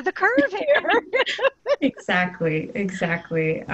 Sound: laughter

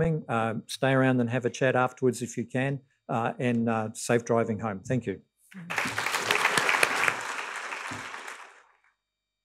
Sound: applause

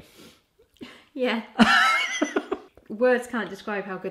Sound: laughing

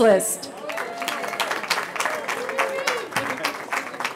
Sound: cheering

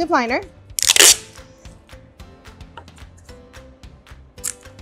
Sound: plastic ripping

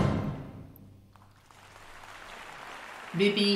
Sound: audience applauding

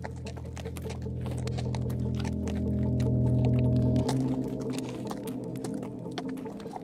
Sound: walking

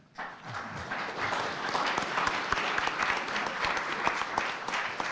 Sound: audience applauding

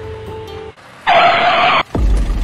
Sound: tires screech

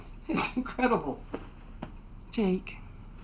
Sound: chuckles

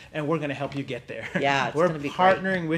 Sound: laughs

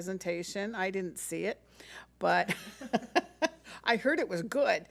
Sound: laughs

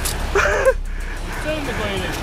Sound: laughing

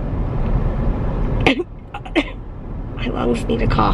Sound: coughing

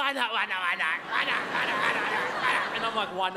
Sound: mocking sounds

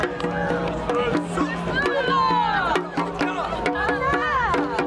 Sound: shouting in encouragement

